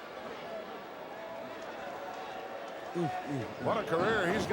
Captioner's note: crowd murmuring